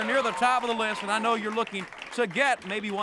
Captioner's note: crowd cheering